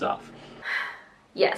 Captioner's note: sigh